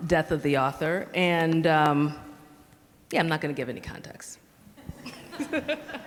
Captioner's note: audience laughs; laughs